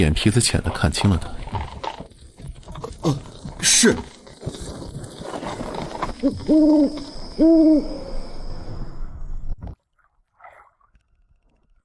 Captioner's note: chewing sounds